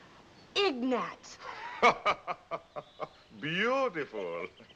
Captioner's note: laughs